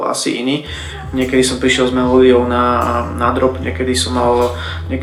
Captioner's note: studio noises in the background